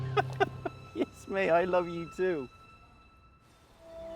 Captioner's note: Noel laughs